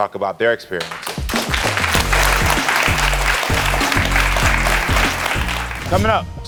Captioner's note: applause; upbeat music